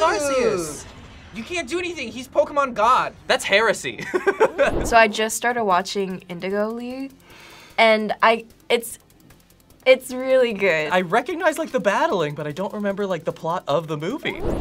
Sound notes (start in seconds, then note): 4.0 laughs; 7.3 inhales